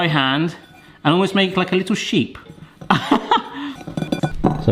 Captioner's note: laughs